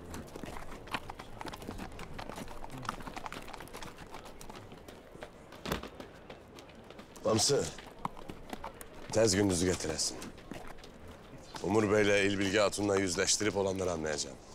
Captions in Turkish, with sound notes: (At nalı sesi) (Atlama sesi) Bamsı... ...tez Gündüz'ü getiresin. Umur Bey'le, İlbilge Hatun’la yüzleştirip olanları anlayacağım.